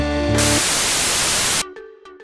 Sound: static

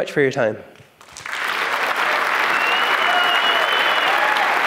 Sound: applause

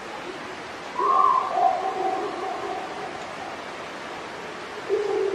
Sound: animal howling

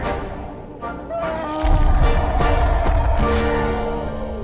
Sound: rumbling

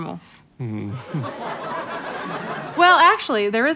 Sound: audience laughter

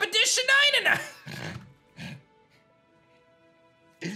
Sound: chuckles

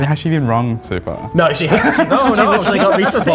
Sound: laughs

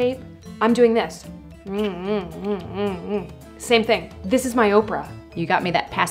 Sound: pacifier sucking noises

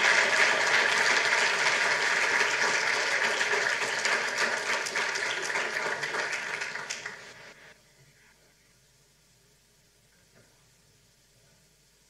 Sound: applause

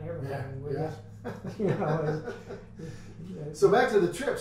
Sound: men laugh

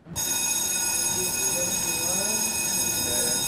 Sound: school bell rings

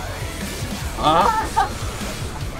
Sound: chuckles

